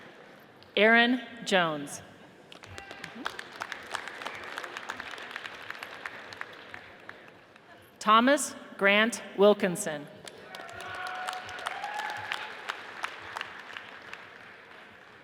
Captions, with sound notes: Aaron Jones, (audience applauds) Thomas Grant Wilkinson, (audience cheers and applauds)